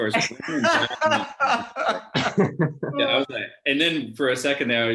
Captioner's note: laughs